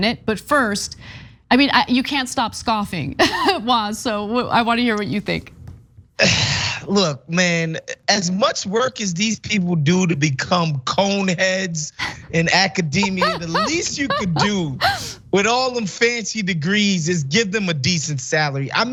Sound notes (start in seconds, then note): 3.2 laugh; 13.0 laugh